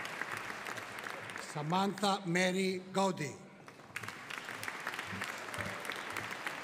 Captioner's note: audience applauding